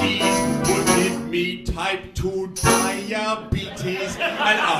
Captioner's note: laughter